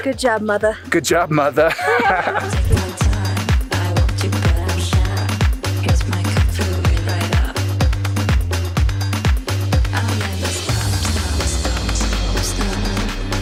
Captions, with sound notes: Good job mother. - Good job mother. (laughing) (upbeat music)